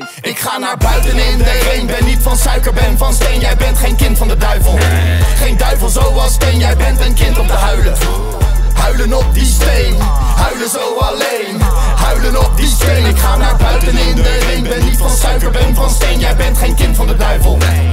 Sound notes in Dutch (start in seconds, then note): 9.9 aah